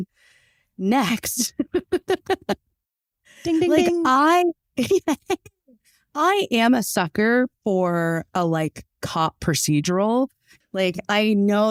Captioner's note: laughs